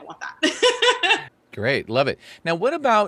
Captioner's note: laughs